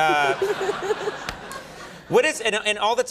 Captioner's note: audience laughs